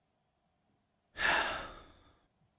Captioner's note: sighs